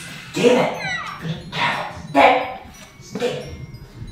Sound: yelling

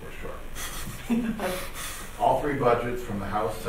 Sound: laughing

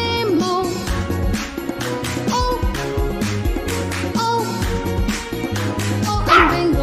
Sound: clap – Clap – Clap – Clap

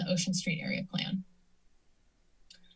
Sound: silence

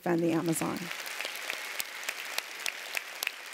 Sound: applause

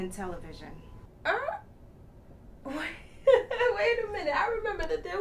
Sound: laughs

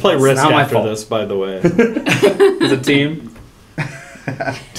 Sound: laugh

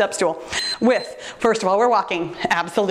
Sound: timer beeps

